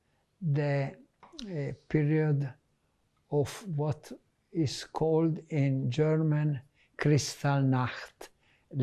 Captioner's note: hebrew